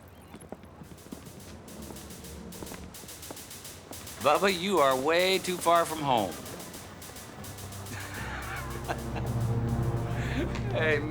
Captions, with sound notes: Bubba, you are way too far from home. (chuckling)